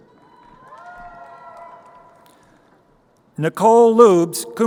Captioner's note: crowd cheering